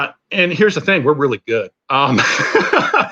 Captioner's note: laughter